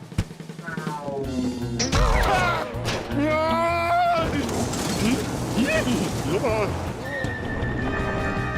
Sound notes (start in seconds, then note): 1.3 boing; 5.5 chuckles